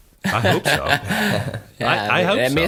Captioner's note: he laughs